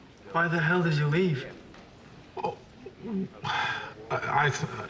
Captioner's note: sighs